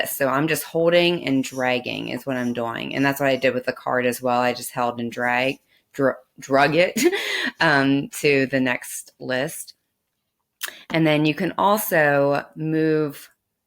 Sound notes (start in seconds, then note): 6.6 laughs